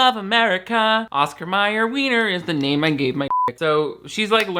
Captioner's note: beep